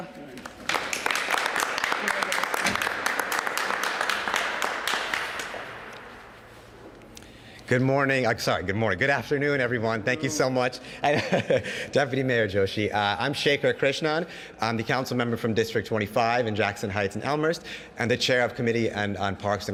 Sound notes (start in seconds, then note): 6.3 paplause